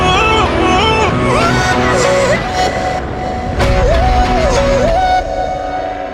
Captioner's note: echoing